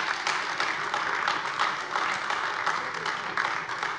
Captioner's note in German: Beifall AfD